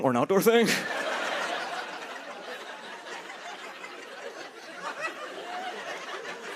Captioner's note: laughter